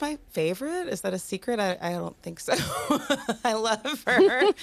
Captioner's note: laughs